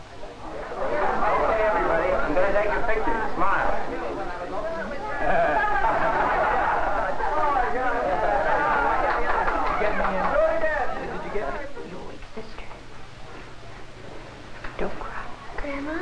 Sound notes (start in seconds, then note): 5.2 parytgoers laugh and clap